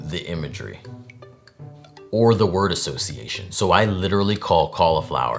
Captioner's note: none